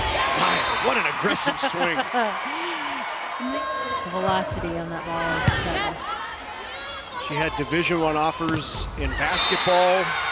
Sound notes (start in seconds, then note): 0.0 crowd cheering; 1.4 chuckling